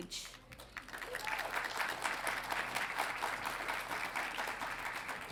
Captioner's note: audience applauding